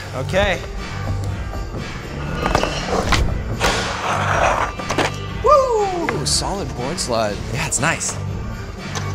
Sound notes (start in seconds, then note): 2.5 Zach cheering; 3.6 skateboard grinding